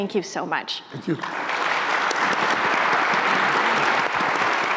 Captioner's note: applause